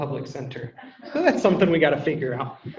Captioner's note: people laugh